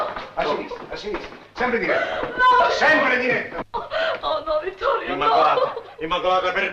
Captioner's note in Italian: piangendo